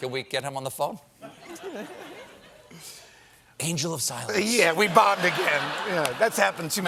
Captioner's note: laughter